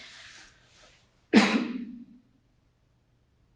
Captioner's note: cough